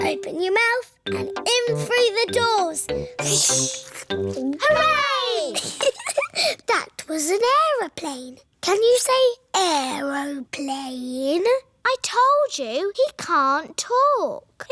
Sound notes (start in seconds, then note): 5.5 giggles